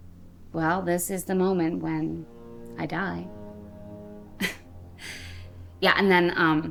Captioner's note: chuckles